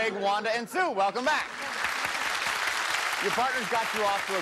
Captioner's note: applause